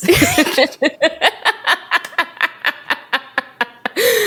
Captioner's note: both laugh